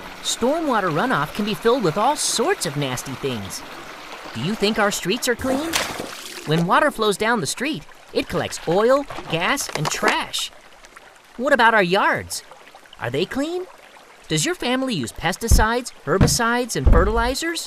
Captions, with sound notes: It's not just natural rain water. Stormwater runoff can be filled with all sorts of nasty things. Do you think our streets are clean? [water splashes] [heavy rain] When water flows down the street it collects oil, gas, and trash. [bottle crunches] What about our yards? Are they clean? Does your family use pesticides, herbicides